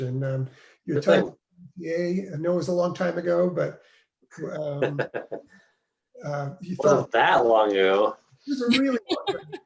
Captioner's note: laughs; laughs